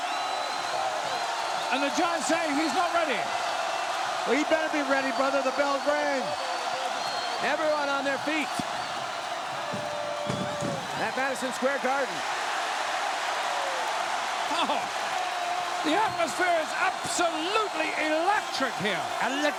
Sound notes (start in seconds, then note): 1.9 crowd cheers